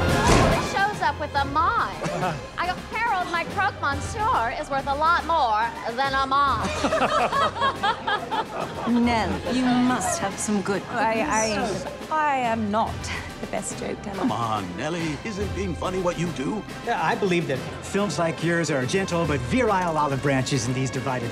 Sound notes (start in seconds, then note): 6.6 all laughing